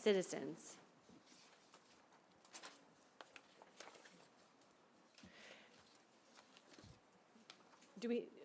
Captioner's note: silence